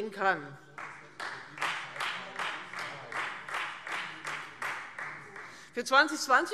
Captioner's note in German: Beifall Freie Demokraten